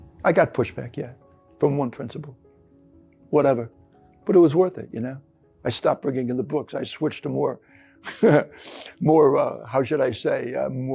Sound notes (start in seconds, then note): 8.0 laughing